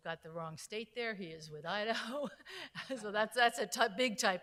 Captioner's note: laughs